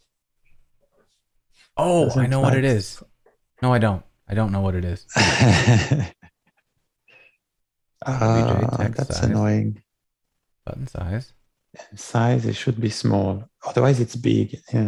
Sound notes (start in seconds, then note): 5.1 laughter